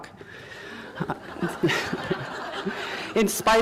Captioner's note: laughter